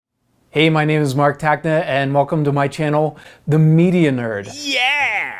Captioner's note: silly voice Yeah!!!